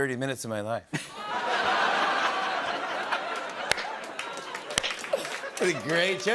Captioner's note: laughter, audience groans